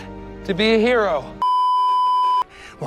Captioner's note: beeeeeeeeeeeep